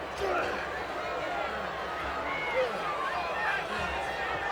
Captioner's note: Tito grunts